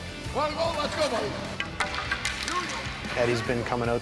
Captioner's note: murmurs